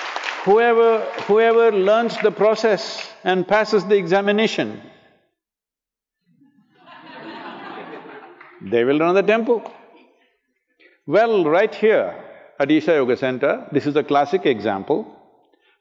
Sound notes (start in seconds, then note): 0.0 applause; 6.4 laughter